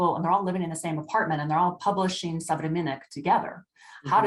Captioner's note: speaking russian